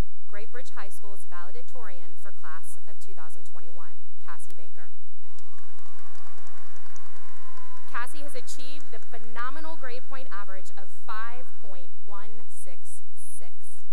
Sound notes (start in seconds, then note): 5.2 cheering and applause